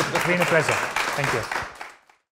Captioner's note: applause